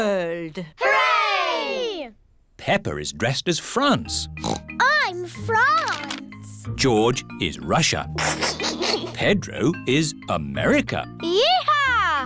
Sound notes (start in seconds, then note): 4.4 oinks; 8.2 giggles